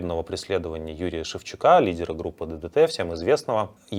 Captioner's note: Russian